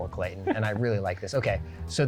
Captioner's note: laughs